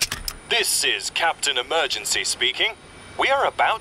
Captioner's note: none